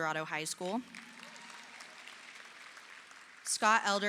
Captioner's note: audience applauding